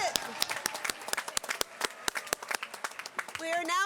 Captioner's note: applause